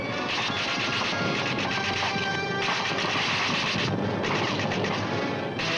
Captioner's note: guns firing